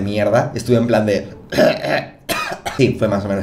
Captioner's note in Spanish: cof